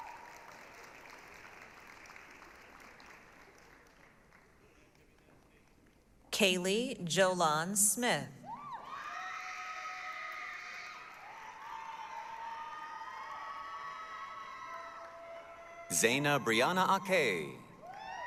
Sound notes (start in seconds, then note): 0.0 applause, cheering; 8.5 applause, cheering